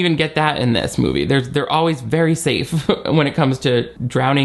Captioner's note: chuckles